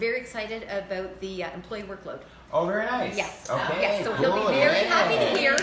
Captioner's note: claps